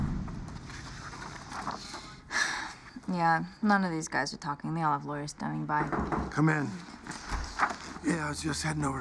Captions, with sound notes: Yeah, none of these guys are talking. They all have lawyers standing by. ( Knocking ) Come in. Yeah, I was just heading over to brief you.